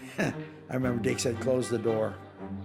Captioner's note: chuckles